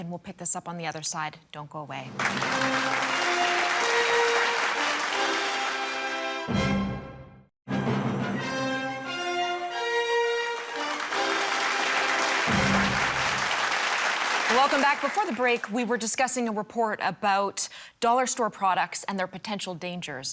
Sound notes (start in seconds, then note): 4.2 crowd clapping; 8.3 orchestrated music; 11.5 orchestrated music; 14.6 crowd clapping